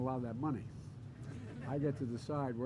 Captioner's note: laughter